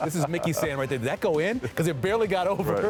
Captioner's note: laughter